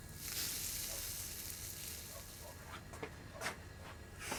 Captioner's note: sizzling